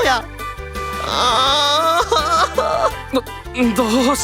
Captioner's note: wails in agony